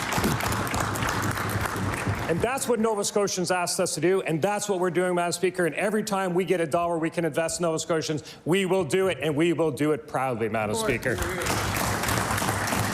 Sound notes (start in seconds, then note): 3.2 applause